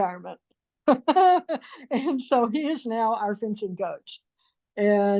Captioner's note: laughs